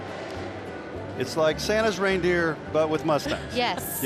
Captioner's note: laughing